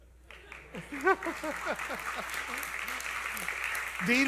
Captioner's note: applause